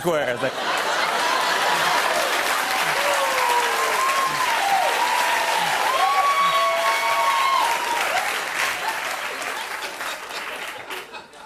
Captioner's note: cheers and applause; As Trump